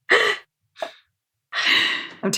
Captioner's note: laughs